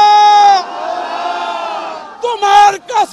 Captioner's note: crowd repeats